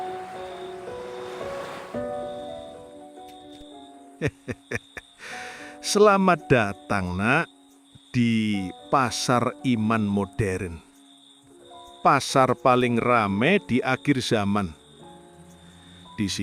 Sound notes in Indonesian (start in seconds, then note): 4.2 tertawa; 5.2 terkesiap